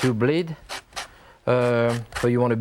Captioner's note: fruit rasping